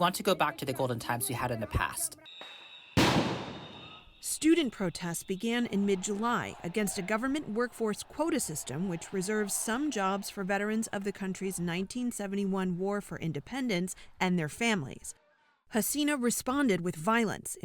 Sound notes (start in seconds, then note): 4.6 voice-over